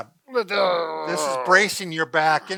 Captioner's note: groaning